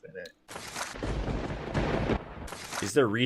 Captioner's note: thunder cracks